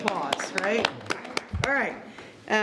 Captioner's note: all clapping